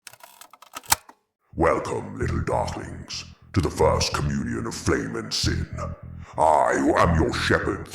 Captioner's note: clicking